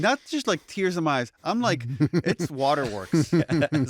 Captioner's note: laughter